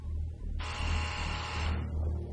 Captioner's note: door buzzes